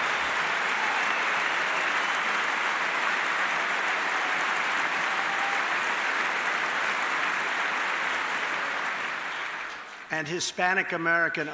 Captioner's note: applause